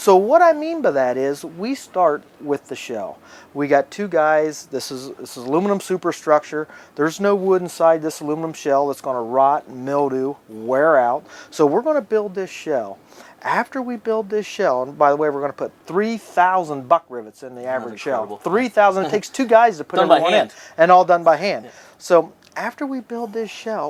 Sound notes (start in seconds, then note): 20.0 laughs